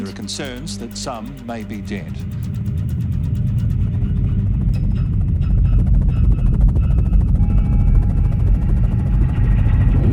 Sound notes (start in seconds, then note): 4.6 helicopter propeller sound